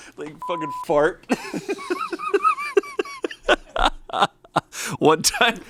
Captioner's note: beep; laughs